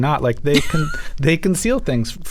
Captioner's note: laughter